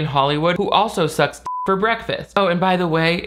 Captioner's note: beep